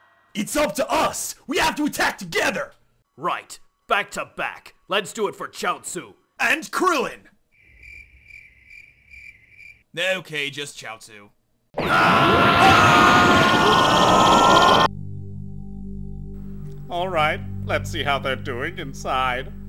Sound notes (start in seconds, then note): 7.5 crickets chirping